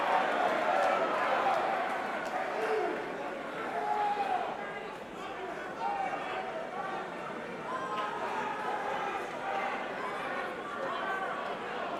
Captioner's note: crowd chatter